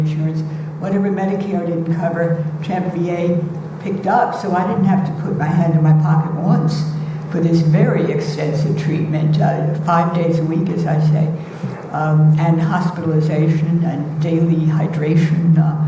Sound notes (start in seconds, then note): none